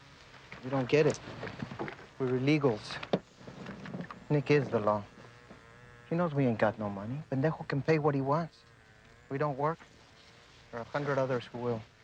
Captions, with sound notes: - You don't get it. We're illegals. Nick is the law. He knows we ain't got no money. (speaking in foreign language) can pay what he wants. We don't work, there are a hundred others who will.